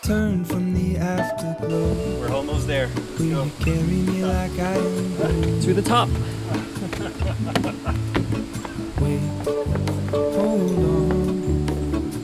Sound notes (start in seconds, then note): 0.2 upbeat music; 7.0 laughing; 9.4 upbeat music